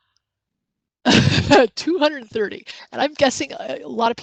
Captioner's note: laughs